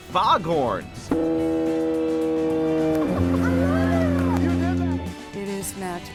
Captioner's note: foghorn sounding off